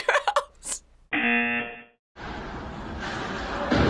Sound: buzzer rings

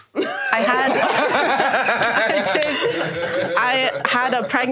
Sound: everyone laughs

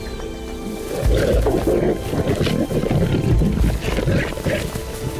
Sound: lions roar and growl

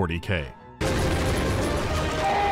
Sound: gun goes brakka

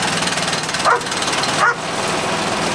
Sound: motor starts

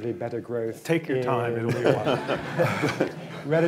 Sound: laughter

